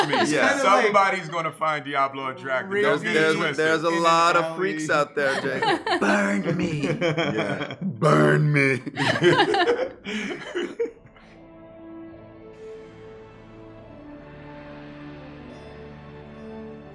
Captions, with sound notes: - Somebody's gonna find Diablo attractive, don't get it twisted. - There's a lot of freaks out there be like burn me. Burn me. (laughter) (soft music)